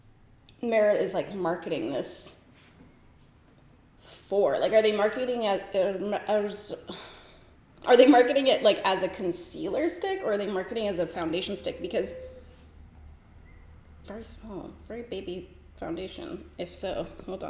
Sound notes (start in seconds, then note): 5.6 stutters over words; 7.0 sighs